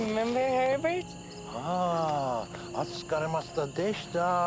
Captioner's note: speaking Japanese